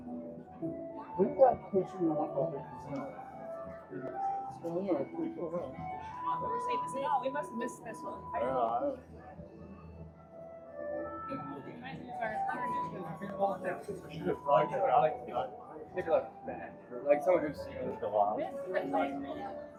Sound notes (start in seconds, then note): 3.9 crowd chattering